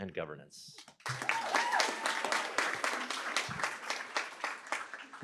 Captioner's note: cheering, applause